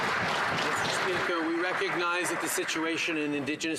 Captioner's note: some Applause